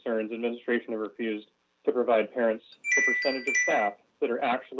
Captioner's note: chime